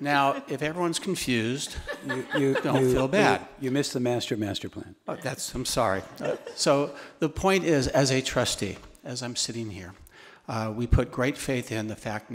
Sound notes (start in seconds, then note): 0.0 attendees laughing; 0.0 woman chuckling